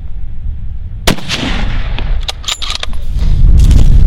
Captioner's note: shot fired